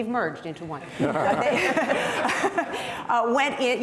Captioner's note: panel laughing